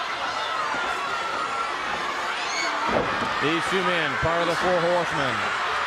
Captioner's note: crowd cheering